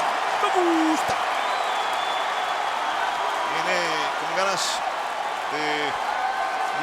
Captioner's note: applause